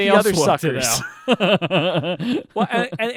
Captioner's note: laughing